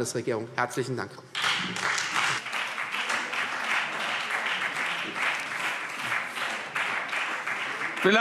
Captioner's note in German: Beifall Freie Demokraten und vereinzelt SPD